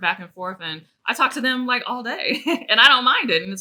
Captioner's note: chuckles